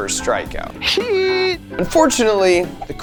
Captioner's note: person cheering